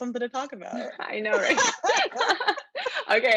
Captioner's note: both laugh